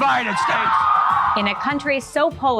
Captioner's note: crowd cheering